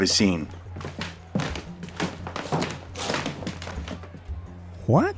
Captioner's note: footsteps as the group comes closer